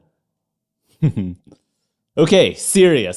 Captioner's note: laughter